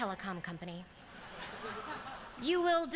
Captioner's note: laughter